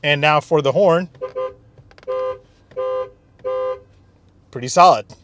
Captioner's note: horn honking